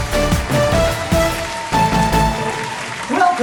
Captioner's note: applause